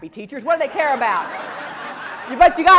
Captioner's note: laugh